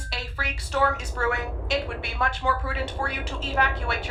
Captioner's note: blowing wind